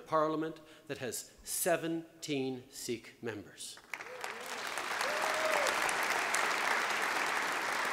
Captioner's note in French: Applaudissements